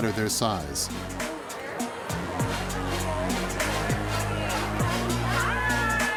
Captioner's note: chattering